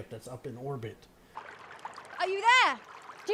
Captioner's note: water rushing